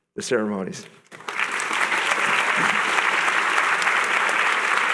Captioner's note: applause